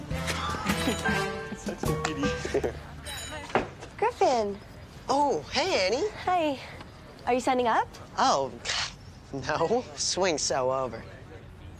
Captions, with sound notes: (boy laughs) - Griffen. - Oh, hey Annie. - Hey, are you signing up? - Oh, no, swing's so over.